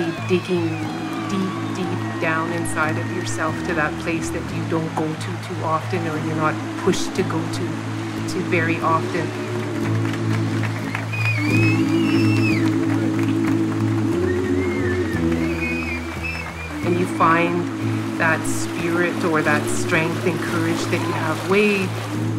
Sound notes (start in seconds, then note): 9.2 cheering